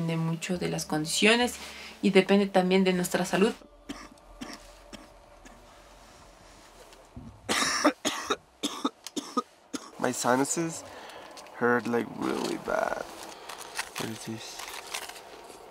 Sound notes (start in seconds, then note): 3.8 coughing; 7.4 coughing